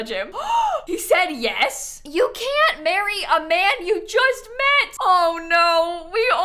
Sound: gasps

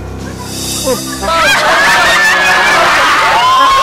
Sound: laughter

